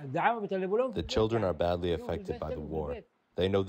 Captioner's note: through translator